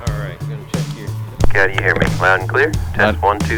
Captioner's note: ground Radio